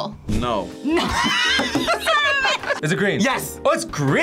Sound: laughs

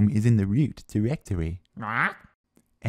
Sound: comprehending squawks

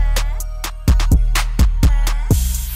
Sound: none

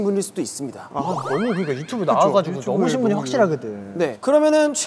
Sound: murmurs

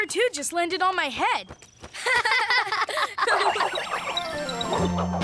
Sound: laughing

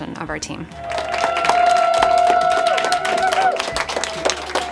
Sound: clapping and cheering

